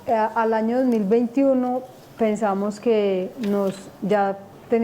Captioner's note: speaking spanish